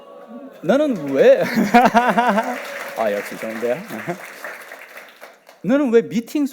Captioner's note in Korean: 환호와 박수